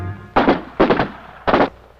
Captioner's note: gun fires